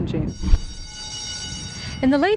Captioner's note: school bell rings